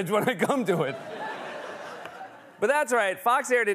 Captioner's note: laughter